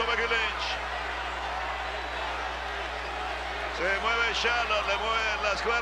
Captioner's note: applause